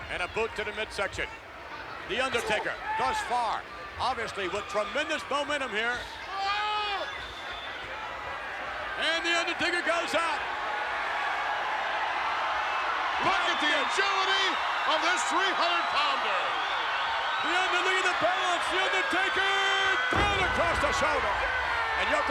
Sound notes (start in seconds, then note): 10.7 audience cheers